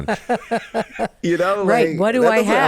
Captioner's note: both laugh